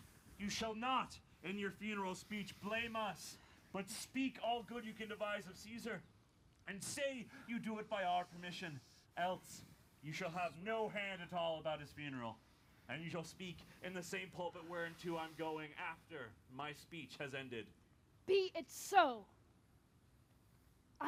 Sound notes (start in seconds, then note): none